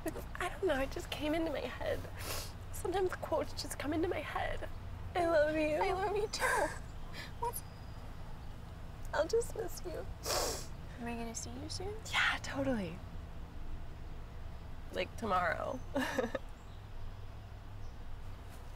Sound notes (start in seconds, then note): 15.9 chuckling